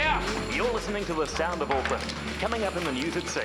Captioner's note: man on radio